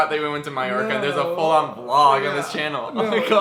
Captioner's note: laughs